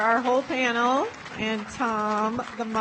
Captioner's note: audience applauds